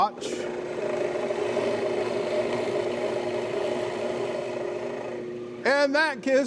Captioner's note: drilling wood